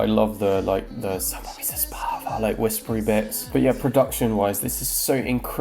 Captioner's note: whispers